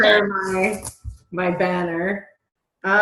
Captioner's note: murmurs